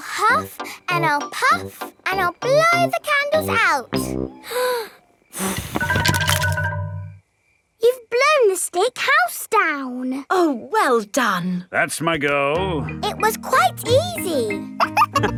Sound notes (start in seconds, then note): 5.3 blowing